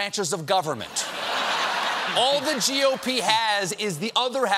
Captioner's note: laughter